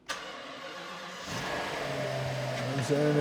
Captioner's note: engine Starting